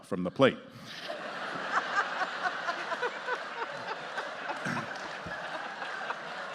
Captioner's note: justices and audience laughing